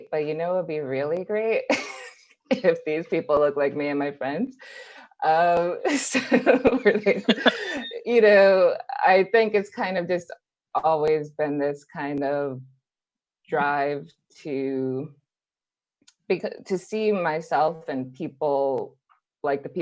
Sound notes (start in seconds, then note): 1.4 laughs; 6.1 more laughter